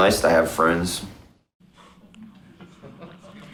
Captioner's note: laughter in audience